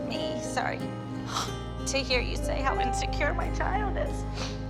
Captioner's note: snivels